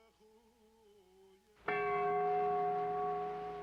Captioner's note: bell tolling